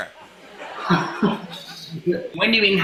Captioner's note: laughter